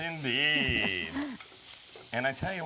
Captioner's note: laughing